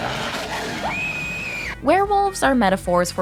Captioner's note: screams